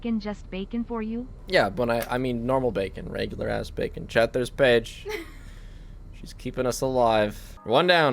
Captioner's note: laughs